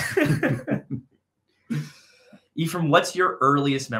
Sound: laughing

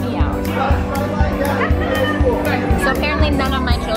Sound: crowd chattering

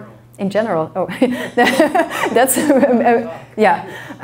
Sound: laughs

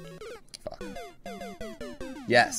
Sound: death audio

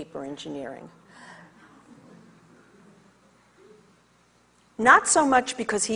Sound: audience chatters

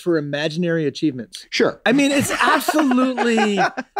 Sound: Glenn laughs

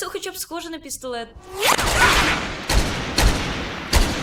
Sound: gunfire

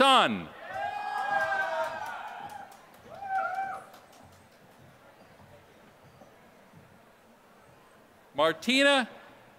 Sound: applause

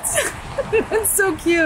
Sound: chuckles

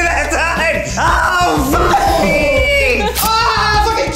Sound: screams; beep

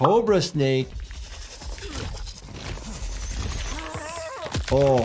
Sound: fighter groans

